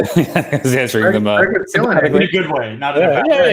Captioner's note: indistinctive chattering